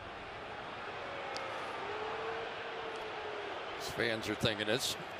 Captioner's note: crowd clamoring